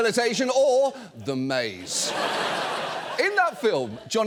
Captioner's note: audience laughs